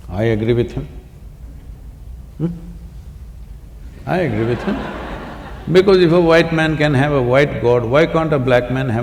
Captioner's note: laughter